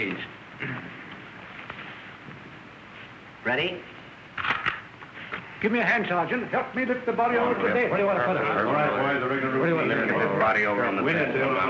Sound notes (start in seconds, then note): 4.4 camera click